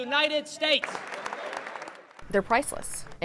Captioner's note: applause